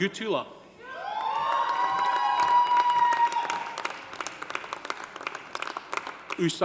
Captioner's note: audience cheering; audience applauding